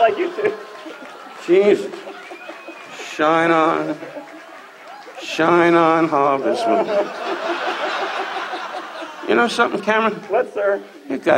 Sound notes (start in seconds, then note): 2.8 audience laughs; 8.2 audience laughs